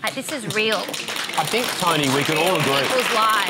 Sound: applause

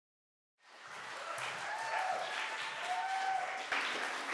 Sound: applause

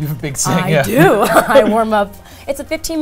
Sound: laughs

